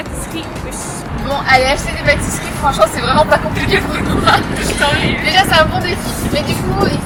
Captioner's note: laughs